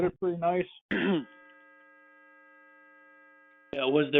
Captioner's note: clears throat